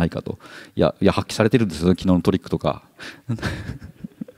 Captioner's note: chuckles